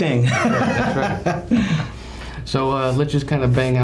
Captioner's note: laughing